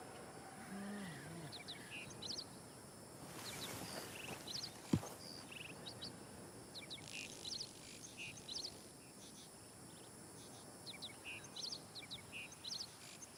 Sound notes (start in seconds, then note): 1.1 frog croaking